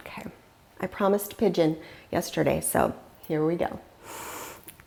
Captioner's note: deeply inhaling